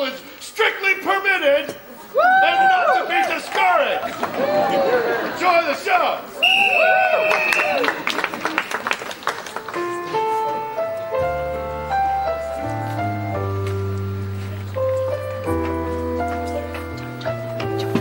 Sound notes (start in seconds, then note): 6.4 whistle blows; 9.7 smooth jazz